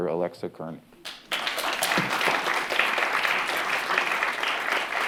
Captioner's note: applause